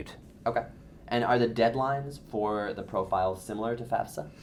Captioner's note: voiceover